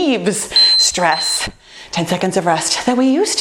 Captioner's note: timer beeping